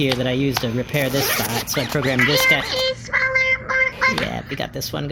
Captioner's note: unzips bag